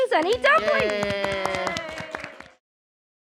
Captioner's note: applause